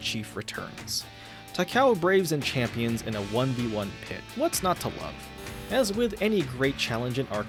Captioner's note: leak correction buzzer